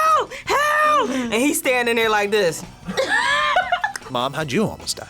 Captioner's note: laughs